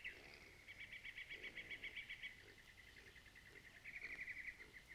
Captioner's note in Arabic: تغريد الطيور